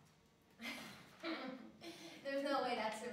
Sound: laughs

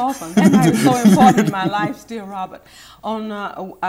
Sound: laughing

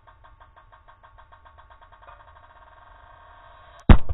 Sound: popping quickly; bang!

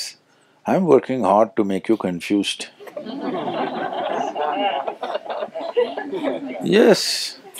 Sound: laughter

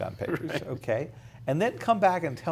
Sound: laughs

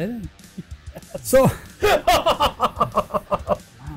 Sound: laughing

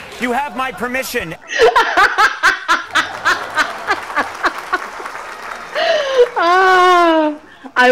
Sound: laughter

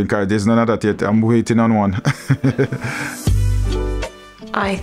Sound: laughs

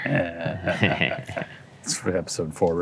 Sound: laughs

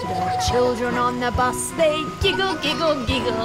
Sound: children giggling

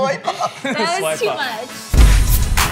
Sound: laughs; upbeat music

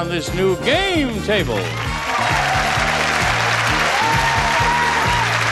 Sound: audience applauds

